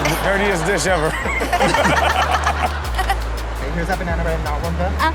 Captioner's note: Chanel laughing